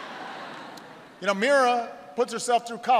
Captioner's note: laughter